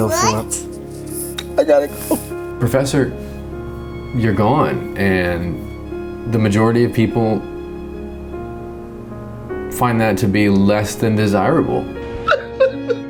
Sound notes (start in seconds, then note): 0.0 cries